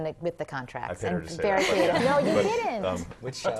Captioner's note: laugh